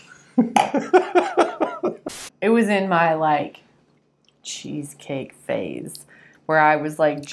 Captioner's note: laughter